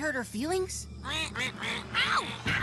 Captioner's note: duck Quacking